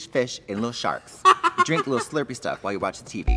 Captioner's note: laughs